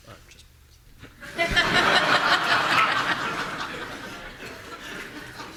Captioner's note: audience laughing